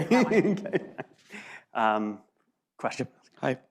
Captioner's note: laughs